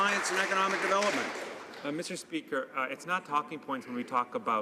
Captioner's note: some Applause